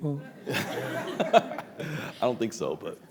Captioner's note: audience laughs